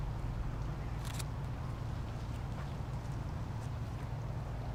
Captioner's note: camera clicking